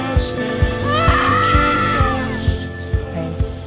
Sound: screams

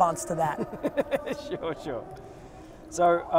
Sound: laughs

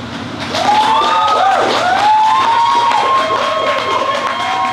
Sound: audience cheers and claps

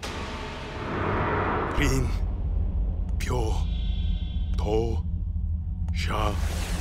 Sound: speaking Japanese

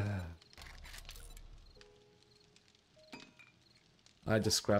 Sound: sighs

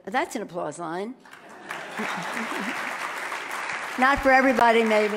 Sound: loud clapping

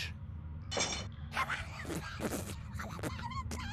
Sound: sputtering

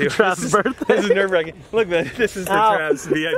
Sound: laughing

